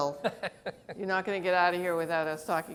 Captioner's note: laughs